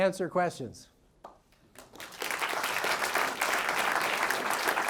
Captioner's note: audience applauds